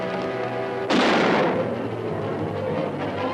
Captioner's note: suspenseful music; gunshot; suspenseful music